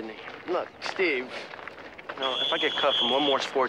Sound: whistle blows

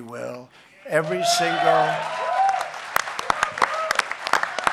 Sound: applause

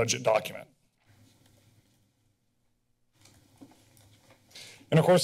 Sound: pause

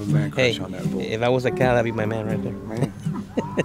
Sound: laughs

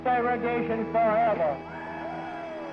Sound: crowd cheering

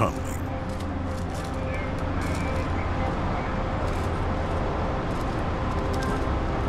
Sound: crew chatting

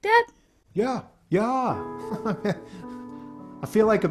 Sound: laughs

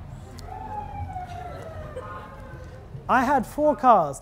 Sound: sirens ringing

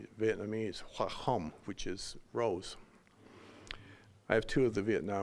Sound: speaking Vietnamese

